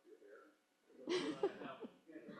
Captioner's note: laughter